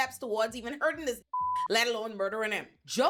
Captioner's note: beep